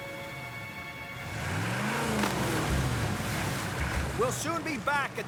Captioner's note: engine Revving